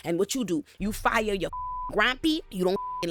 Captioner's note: beep